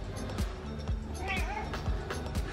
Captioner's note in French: miaou